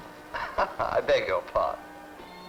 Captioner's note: chuckles